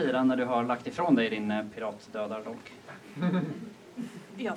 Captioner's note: laughter